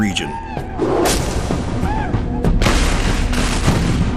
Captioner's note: gunshot bangs